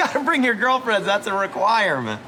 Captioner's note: laughs